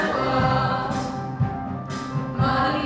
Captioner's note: double hit